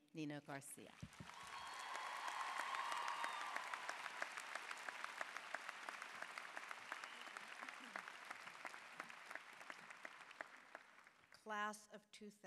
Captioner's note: applause